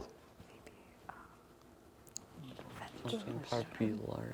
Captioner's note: whispering